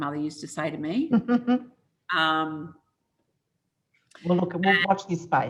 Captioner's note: giggles